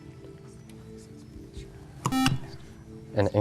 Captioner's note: beep